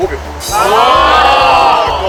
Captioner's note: cheering